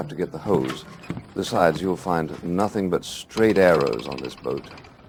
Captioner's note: stiff wood sound effect